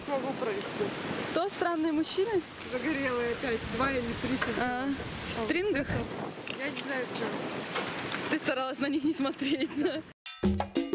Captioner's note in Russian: смеётся